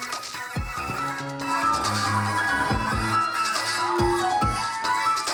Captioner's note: audience cheers